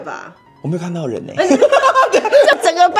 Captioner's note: laughs